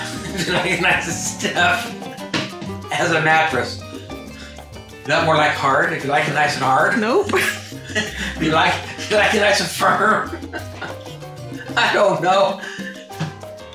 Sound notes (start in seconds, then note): 7.2 immature giggling; 9.8 giggling continues